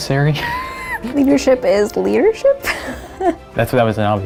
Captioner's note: laughter; laughter